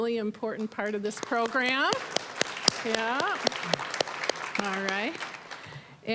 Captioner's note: applause